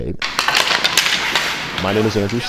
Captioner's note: sticks clattering